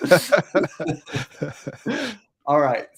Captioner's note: both laughing